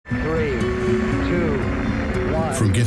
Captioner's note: recorded voice